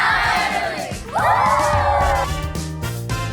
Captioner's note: cheering